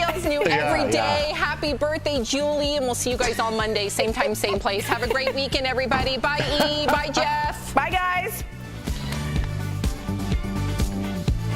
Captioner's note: laughter